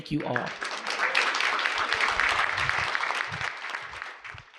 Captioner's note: audience clapping